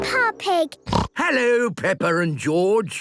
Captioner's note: snorts